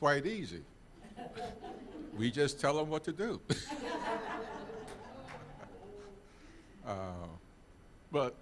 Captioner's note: all laughing